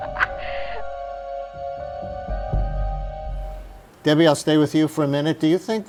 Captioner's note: laughter